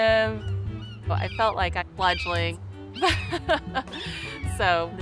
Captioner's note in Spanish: risas